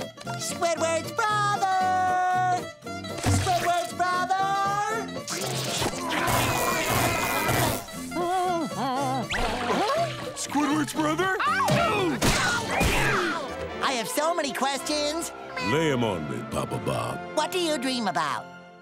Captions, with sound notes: Squidward's brother! Squidward's brother! [humming] Squidward's brother? [screaming] I have so many questions. -Lay 'em on me, Papa Bob. -What do you dream about?